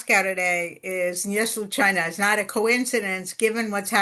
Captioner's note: speaking russian